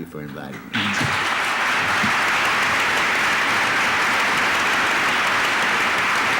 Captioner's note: applause